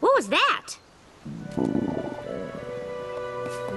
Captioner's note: growling tummies